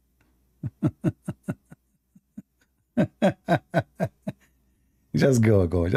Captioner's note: Ketawa